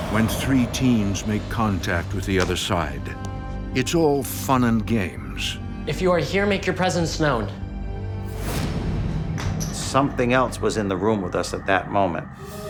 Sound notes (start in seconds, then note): 8.3 whoosh